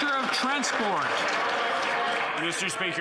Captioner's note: some Applause